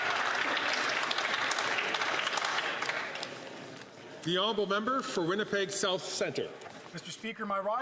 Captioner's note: some Applause